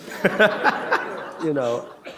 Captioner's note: laughter